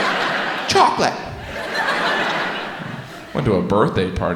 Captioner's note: audience laughs